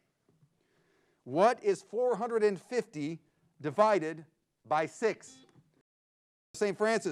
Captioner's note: buzzer beeps